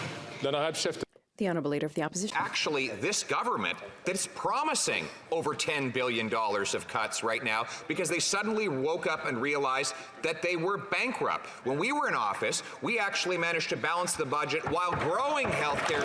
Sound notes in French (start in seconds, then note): 4.1 voix de l'interprète